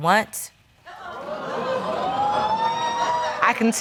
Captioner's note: audience exclaiming